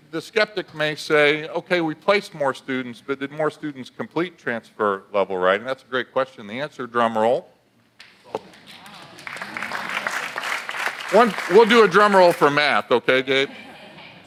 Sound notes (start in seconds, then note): 8.4 audience applauds